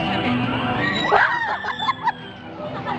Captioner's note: screams